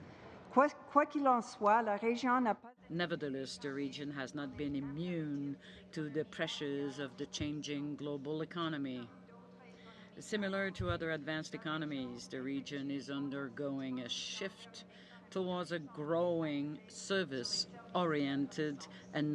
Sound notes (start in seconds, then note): 4.9 speaking french